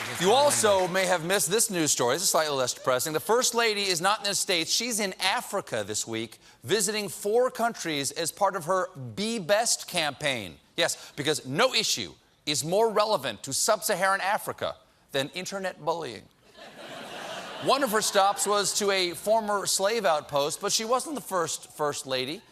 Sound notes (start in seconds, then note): 16.4 laughter